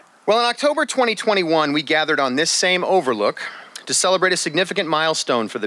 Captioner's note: none